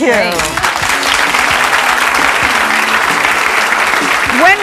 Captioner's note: audience clapping